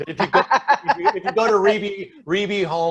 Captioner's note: laughing